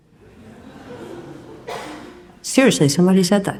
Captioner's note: audience laughs